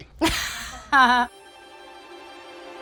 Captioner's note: laughing; playful music